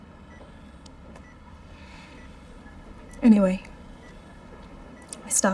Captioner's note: sighs